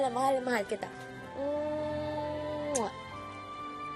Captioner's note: kiss